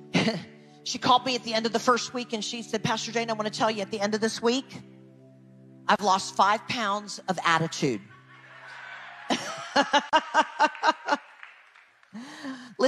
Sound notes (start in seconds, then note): 0.3 chuckles; 8.1 audience laughs; 9.6 laughs